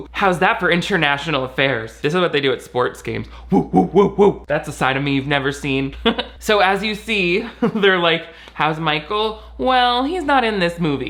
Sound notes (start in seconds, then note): 6.1 laughs